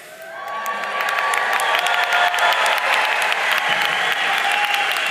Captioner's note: audience cheering and applauding